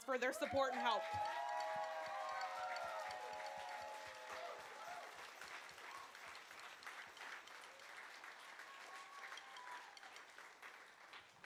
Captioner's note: applause